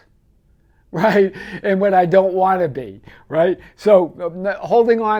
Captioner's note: laughing